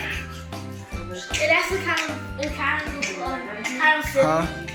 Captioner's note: kids chattering indistinctly